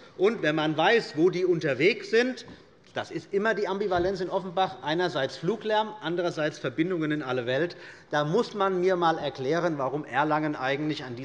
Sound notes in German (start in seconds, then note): none